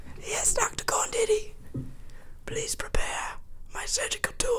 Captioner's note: none